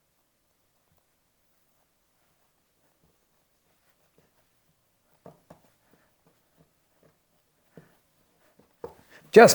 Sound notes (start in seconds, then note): 0.0 silence